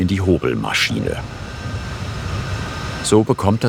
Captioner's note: whirring